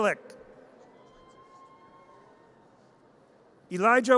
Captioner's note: audience cheers